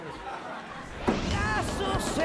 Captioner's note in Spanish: Risas del público